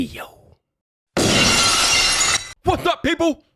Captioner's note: glass shattering